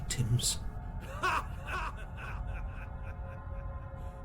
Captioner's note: Cound Magnnus laughs